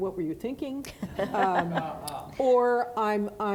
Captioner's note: audience laughing